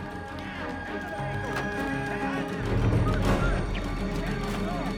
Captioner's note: men yelling